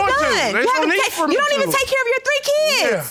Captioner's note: yelling